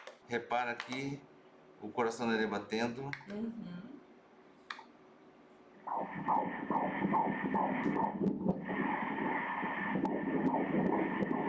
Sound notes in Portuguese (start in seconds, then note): 5.9 batimentos cardíacos